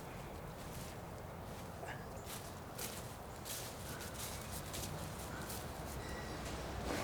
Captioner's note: footsteps pattering through leaves